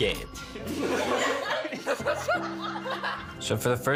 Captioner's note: everyone laughing